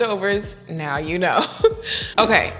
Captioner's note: chuckles